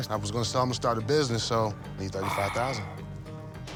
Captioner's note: sighs